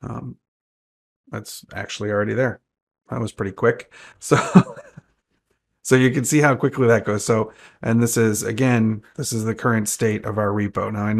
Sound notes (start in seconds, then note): 4.3 laughs